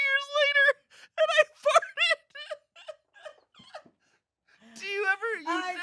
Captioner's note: laughs